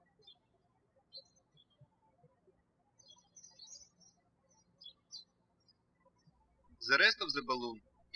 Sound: birds chirping

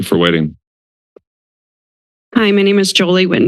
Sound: silence

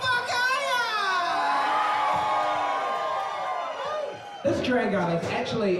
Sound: cheering

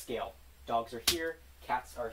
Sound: slap

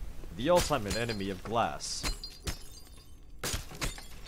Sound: glass breaking

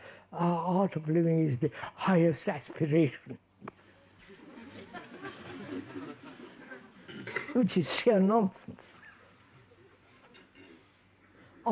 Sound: laughter

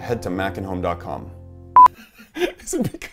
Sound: beeping; laughs

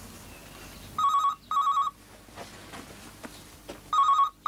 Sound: telephone ringing

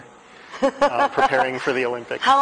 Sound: laughter

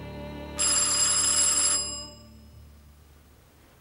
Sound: doorbell

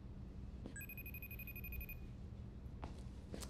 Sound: video call ringing

